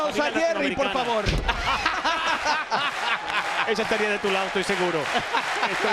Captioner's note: laugh